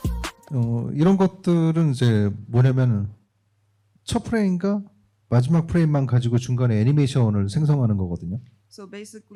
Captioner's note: speaking korean